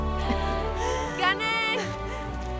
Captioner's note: Esperanza jadea